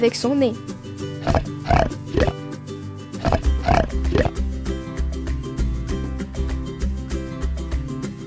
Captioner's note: the pig grunts